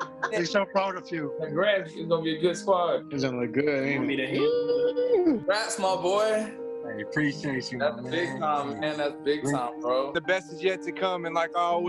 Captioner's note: laughter